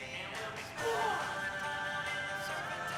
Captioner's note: yells